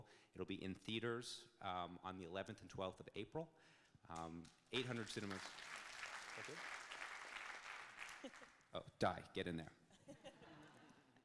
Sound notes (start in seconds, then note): 4.7 audience clapping; 10.1 audience laughing